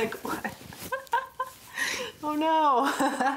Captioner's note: laughing